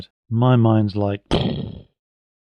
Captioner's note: explosion